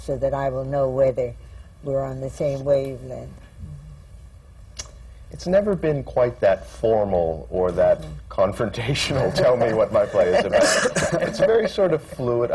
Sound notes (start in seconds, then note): 9.1 laughter